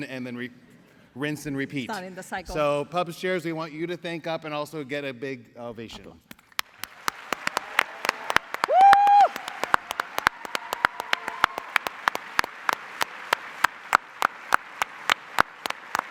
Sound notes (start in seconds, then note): 6.9 applause, cheering